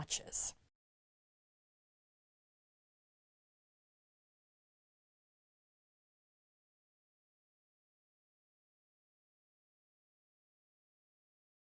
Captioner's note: no Sound Present